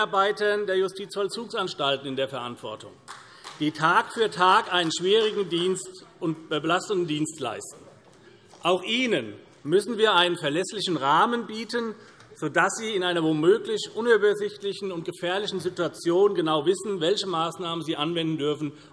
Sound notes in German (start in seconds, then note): 3.0 Vereinzelter Beifall CDU